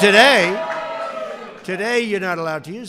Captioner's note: applause